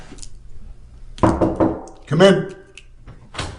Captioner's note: knocking